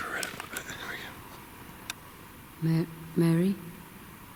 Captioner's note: speaking quietly